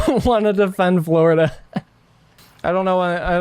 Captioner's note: laughs